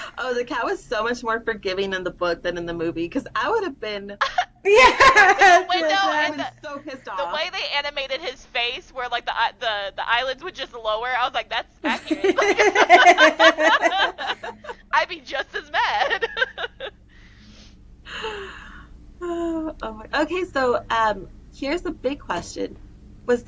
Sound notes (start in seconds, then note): 11.8 laughter